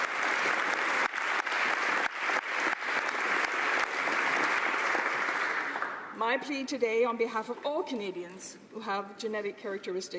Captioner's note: applause